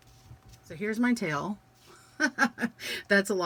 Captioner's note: laughs